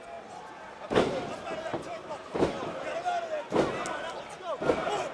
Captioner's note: crowd cheering